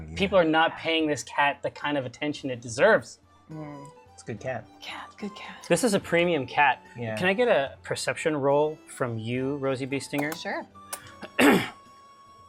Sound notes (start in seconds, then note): 4.8 whispers